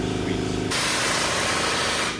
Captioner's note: engine revving